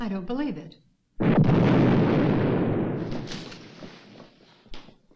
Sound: explosion loudly rumbles

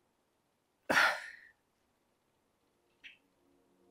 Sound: sighs

